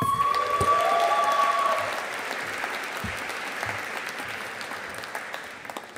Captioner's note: audience applauding